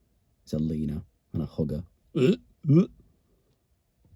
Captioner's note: sick noise